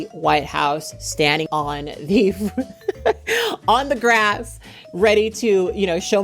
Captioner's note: chuckles